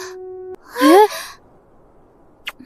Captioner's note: sigh